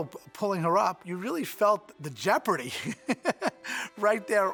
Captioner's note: laughing